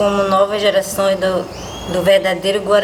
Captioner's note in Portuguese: pássaros cantando